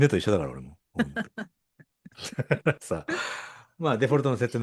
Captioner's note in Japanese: 笑い